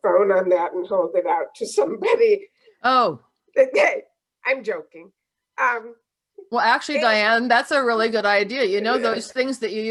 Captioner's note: laughs